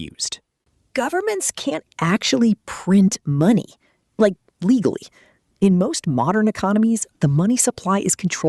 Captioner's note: confident